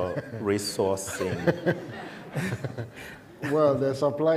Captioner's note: laughter